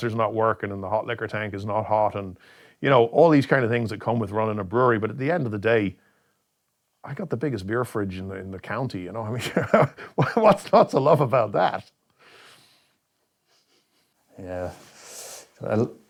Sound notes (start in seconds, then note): 9.4 laughs